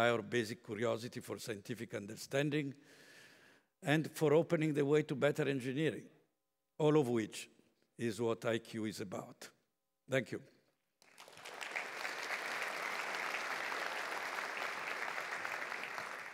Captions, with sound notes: our basic curiosity for scientific understanding and for opening the way to better engineering, all of which is what IQ is about. Thank you. [APPLAUSE]